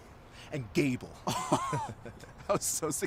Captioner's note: laughter